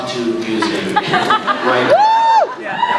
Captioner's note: laughs; scattered laughs; laughs, cheers